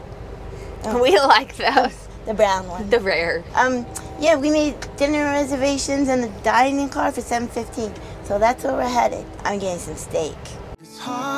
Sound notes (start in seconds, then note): 0.8 laughs